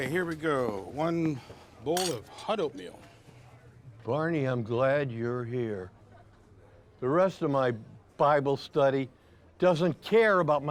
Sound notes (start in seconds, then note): none